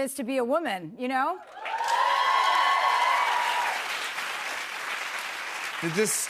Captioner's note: cheers and applause